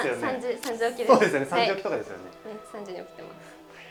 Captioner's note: laughs